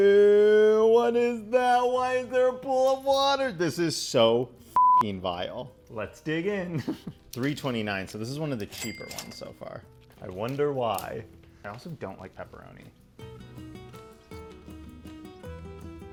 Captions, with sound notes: Ew. What is that? Why is there a pool of water? This is so (beep) vile. Let's dig in. 3.29. So this is one of the cheaper ones so far. I wonder why. I also don't like pepperoni. (instrumental music)